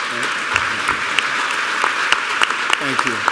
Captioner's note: applause